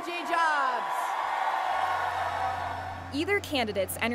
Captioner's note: audience applauds